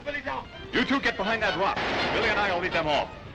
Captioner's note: crash